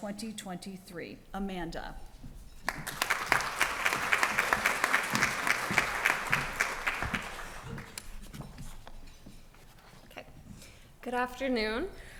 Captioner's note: applause